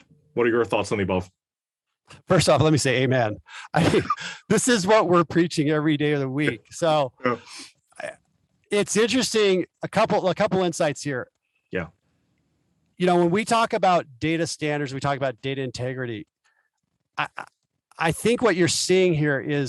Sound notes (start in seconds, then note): 3.5 laugh